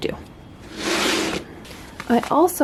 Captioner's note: scrape